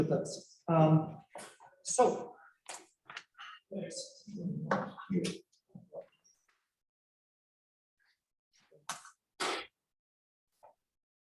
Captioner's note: ambient room sounds